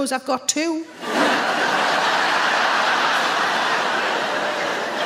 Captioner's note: audience laughs